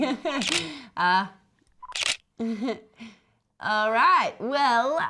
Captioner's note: camera shutter clicks